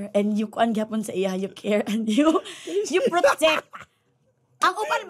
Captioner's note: chuckles